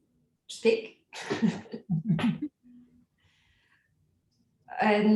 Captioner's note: everyone chuckling